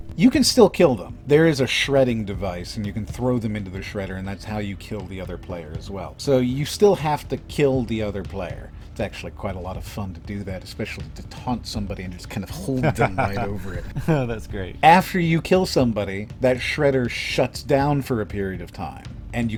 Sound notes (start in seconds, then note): 12.5 laughs